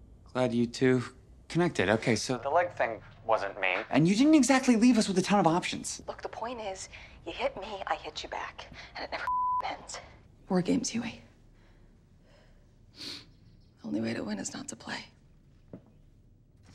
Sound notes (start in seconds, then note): 9.2 beep